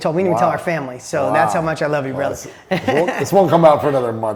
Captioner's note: laughs